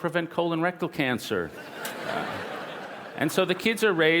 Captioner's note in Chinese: 笑聲